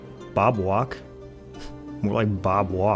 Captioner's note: scoff